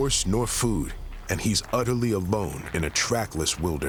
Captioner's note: none